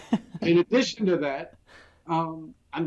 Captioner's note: laughs